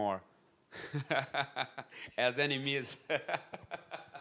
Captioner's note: laughs